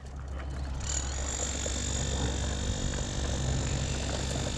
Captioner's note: power tool noise